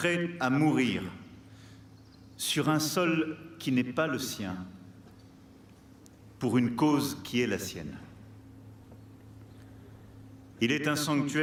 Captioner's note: speaking french